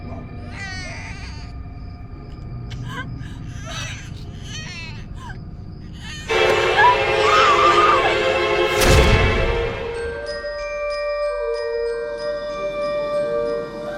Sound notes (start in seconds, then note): 2.7 doll baby and crying; 6.0 screaming; 9.9 haunting music